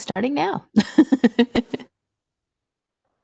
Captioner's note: laughs